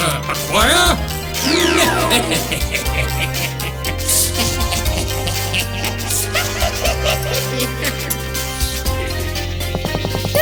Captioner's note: laughing maniacally